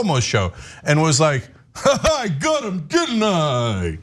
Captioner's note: laugh